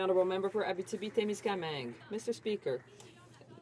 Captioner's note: some Applause